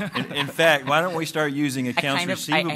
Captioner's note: laughter